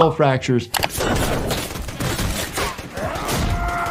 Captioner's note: gunshots fire; man yelling